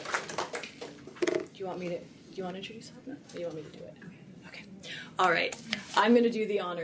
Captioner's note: applause